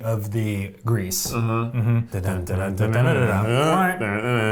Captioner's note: humming